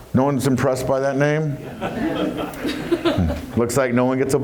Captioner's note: laughs